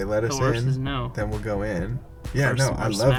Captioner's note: voiceover